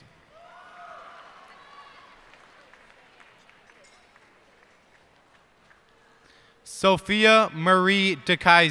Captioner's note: cheers and applause